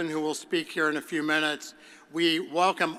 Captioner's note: none